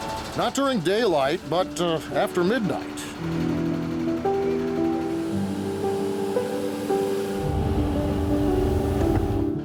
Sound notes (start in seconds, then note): 0.0 engine rumbling; 4.0 nostalgic music; 4.0 truck rumbling